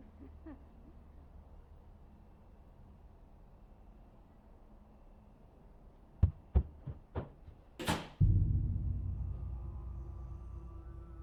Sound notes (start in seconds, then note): 0.1 Jessie laughs; 6.3 running footsteps; 7.8 door closes